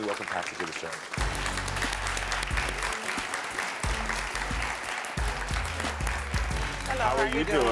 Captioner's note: audience clapping; dramatic music